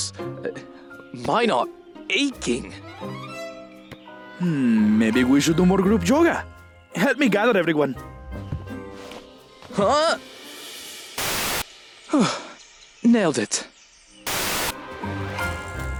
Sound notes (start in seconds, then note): 9.8 Spencer groans; 12.1 sighs